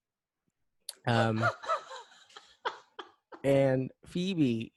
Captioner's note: laughs like some sad combination of Muttley and David Letterman for some reason